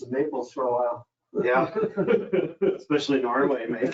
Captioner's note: group chuckling